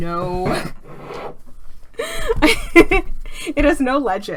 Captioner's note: laughs